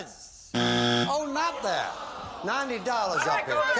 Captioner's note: buzzer